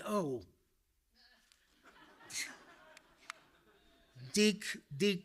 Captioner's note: audience laughing